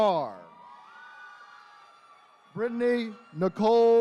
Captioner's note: attendees cheering